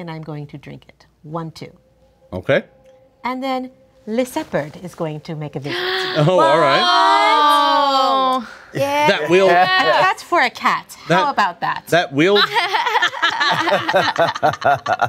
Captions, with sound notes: and I am going to drink it, one two. - Okay. - And then Lyseopard is going to make a visit. (all gasping) - That will-- - That for a cat? How about that? (all laughing)